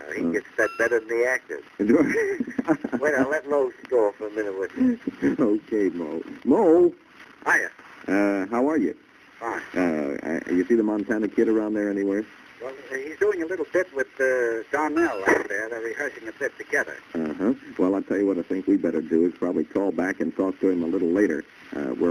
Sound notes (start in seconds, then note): 0.0 on phone; 1.9 laughs; 2.1 on phone; 7.6 on phone; 12.8 on phone; 17.1 on phone